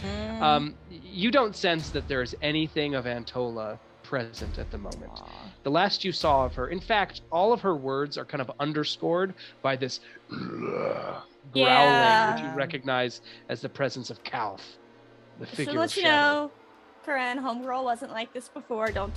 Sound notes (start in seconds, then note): 10.2 deep growl